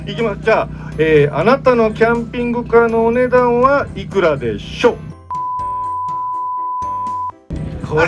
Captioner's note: beep